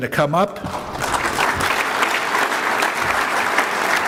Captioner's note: crowd applauds